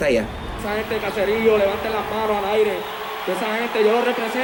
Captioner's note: crowd cheer